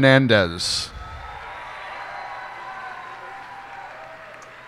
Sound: cheers and applause

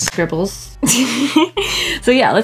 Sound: giggles

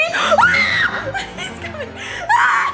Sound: screams

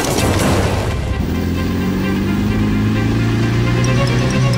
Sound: military engine sound; skid sound

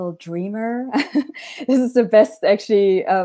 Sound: laughs

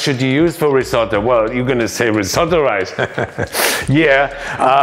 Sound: laughs

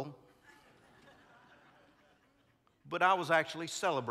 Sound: congregants laughing

